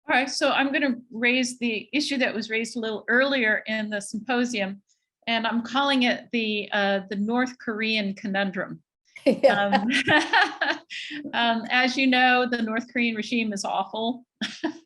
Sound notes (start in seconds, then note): 9.4 laughs; 9.4 chuckles; 14.6 laughs